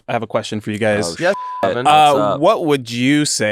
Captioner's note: beep